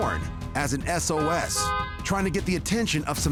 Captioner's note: car horn honking